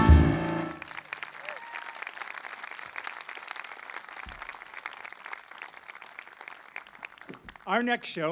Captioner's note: applause